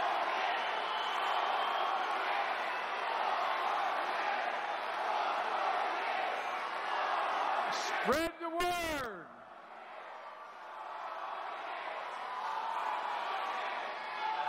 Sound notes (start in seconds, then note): 1.9 cheers and applause; 9.4 chanting "Four more years!"